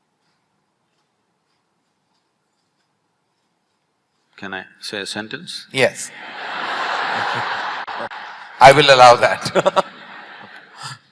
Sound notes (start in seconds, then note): 6.1 laughter/Applause; 10.1 laughs